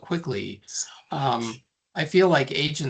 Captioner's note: whispering